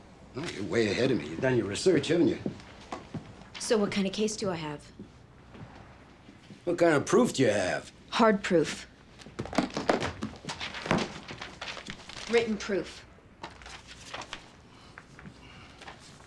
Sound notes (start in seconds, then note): 9.2 briefcase clattering; 15.2 exhales